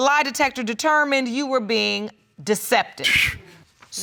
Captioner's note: exclaims